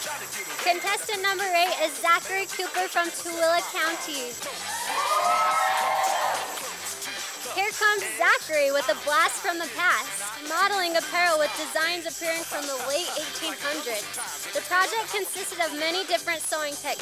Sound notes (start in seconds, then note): 4.5 sound of cheers from audience